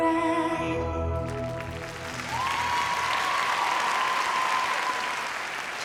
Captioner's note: cheering and applause